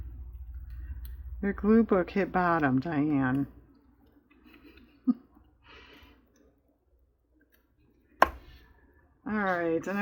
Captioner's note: laughs